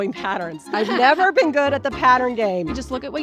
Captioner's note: laughs